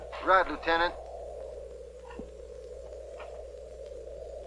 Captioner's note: wind howling